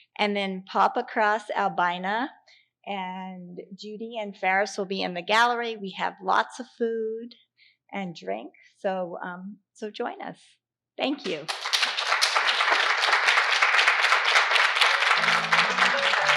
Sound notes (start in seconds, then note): 11.3 audience applauding